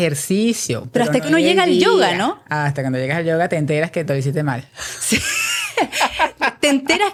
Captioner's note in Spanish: risas